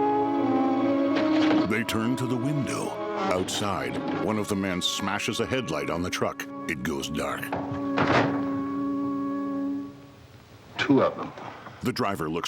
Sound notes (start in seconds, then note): 1.0 glass shattering